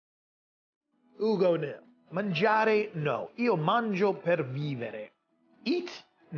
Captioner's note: happy music; speaking in Italian